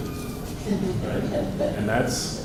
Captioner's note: laughter